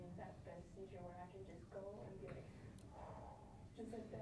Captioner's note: sighs